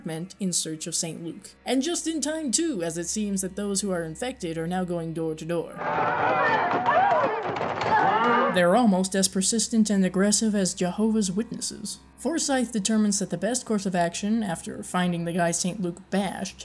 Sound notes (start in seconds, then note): 6.2 infected residents banging on door and yelling